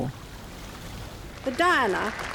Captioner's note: water flowing